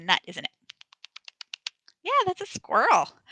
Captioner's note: tongue clicking